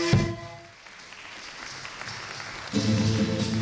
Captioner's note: applause; music